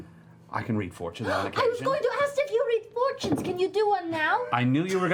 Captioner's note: gasps